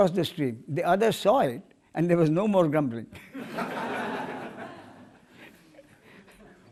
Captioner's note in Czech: smích